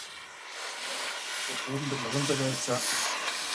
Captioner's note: rumbling, fragments of conversation